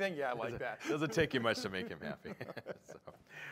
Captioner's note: laughter